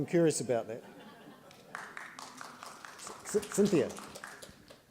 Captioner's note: laughter and applause